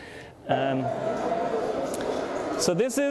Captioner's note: crowd roars